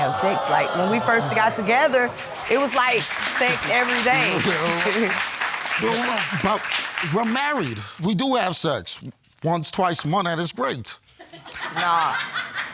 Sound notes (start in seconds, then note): 1.6 audience clapping; 4.4 chuckles; 11.3 audience laugh